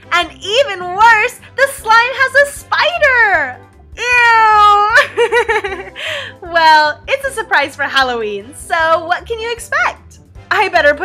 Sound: laughs

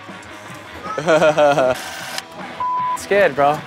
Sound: laughs

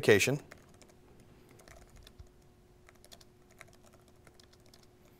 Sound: keyboard clicking

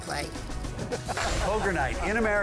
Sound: all laughing loudly

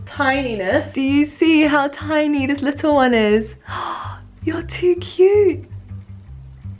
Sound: gasp

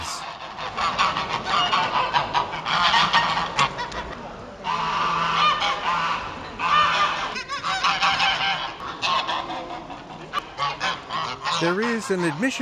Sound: geese quack

